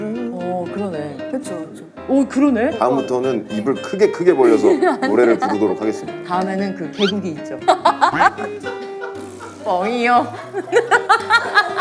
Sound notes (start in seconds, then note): 7.7 holding in his laughter